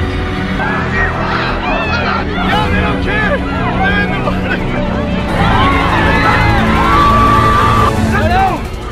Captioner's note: dramatic music; screaming of crowd with dramatic music in background; guard shouting repeatedly